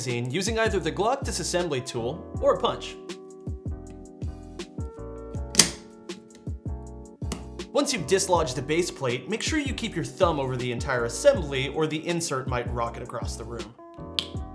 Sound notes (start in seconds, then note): 5.5 magazine clicking